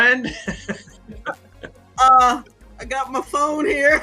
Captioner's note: laughs